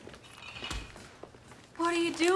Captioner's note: glass clanging